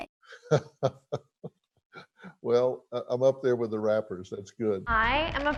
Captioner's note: chuckles